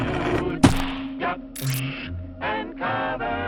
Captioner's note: object smacks body